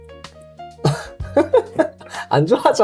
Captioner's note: laugh